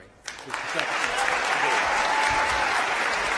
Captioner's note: applause